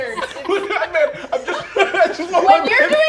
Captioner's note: laughs